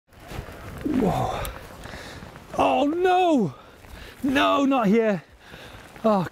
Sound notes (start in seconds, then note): 0.8 groaning